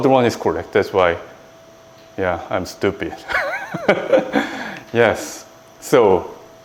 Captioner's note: laughs